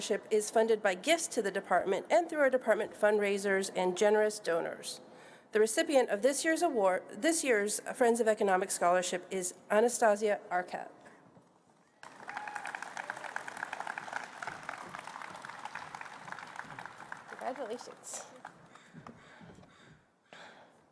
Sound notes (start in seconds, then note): 12.0 applause